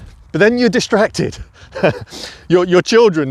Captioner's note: laughs